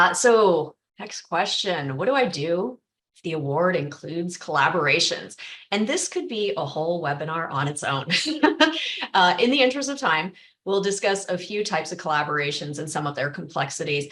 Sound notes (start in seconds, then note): 8.1 laughter